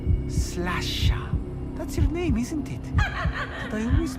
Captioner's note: high-pitched laughter